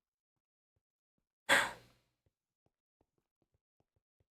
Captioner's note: sigh